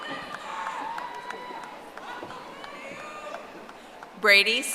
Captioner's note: audience applauding